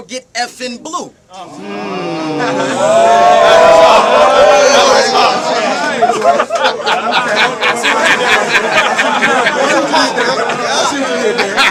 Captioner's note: crowd Reaction